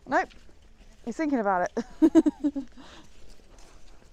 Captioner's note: laughs